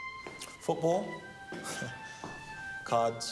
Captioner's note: laughs